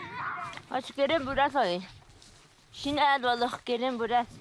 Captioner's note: foreign spoken audio